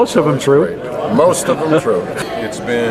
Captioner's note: laughs